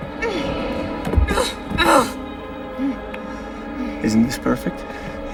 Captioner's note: groans